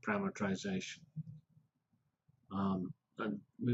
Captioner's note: pause